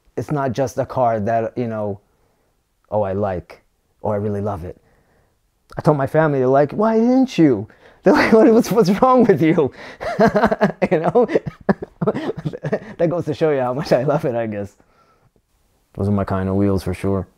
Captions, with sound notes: It's not just the car that I like or I really love it. When I told my family they were like "Why didn't you?" "What's wrong with you?" [Laughs] That goes to show how much I love it, I guess. Those are my kind of wheels for sure.